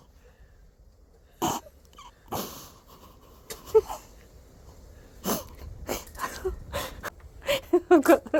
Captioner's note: snorting laughter